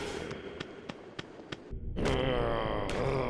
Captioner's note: tapping; groaning